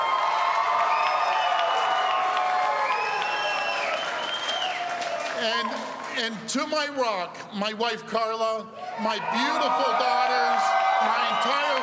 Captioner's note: cheers and applause